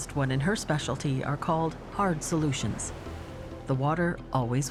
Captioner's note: none